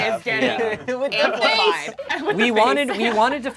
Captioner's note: overlapping chattering